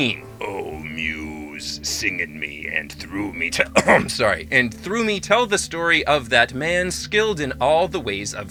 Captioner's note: swedish accent